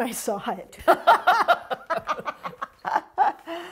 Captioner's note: both laughing